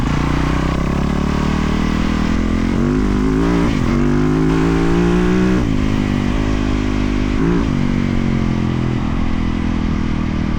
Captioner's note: engine roaring